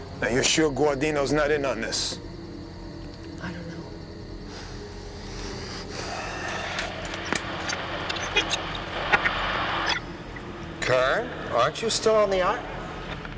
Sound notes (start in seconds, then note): 6.3 static crackles